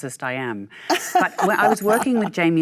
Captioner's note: Michelle laughs